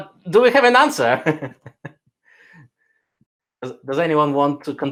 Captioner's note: laughs